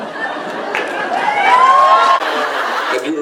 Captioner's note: audience cheers; Jared laughs